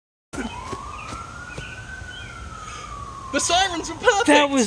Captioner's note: police sirens